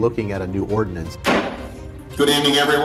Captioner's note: gavel bangs